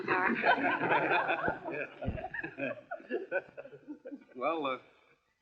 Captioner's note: laughing